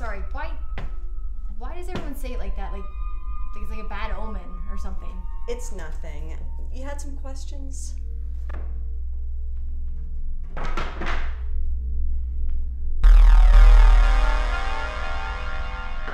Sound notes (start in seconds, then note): 10.6 boards clatter; 13.0 dramatic music